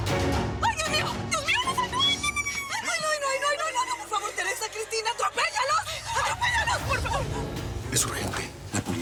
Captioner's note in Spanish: Exclamaciones de pánico